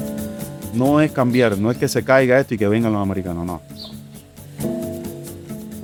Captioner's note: speaker speaking in Spanish